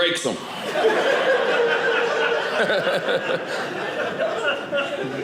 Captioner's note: audience laughing